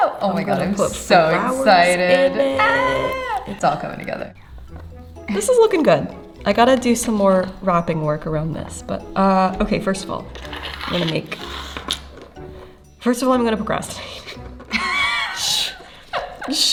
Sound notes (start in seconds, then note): 1.2 squeals; 14.7 laughs